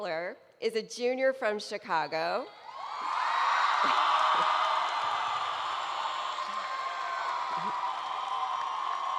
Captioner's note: cheering